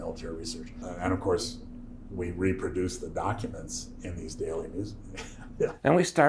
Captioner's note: laughs